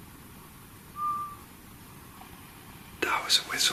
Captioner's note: whistling